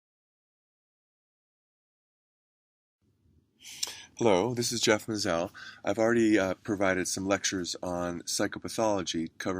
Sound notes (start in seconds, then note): 4.4 voiceover